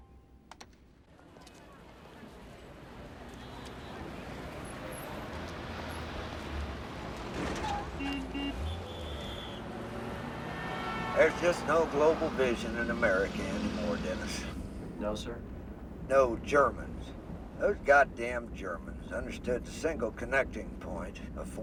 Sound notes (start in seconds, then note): 7.6 truck Horn Honks